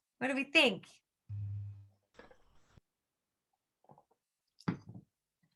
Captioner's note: silence